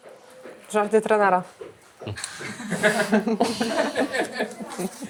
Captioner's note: laughs